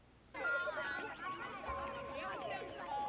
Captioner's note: chattering